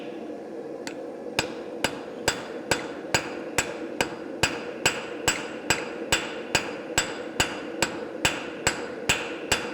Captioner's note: sharp metallic hammering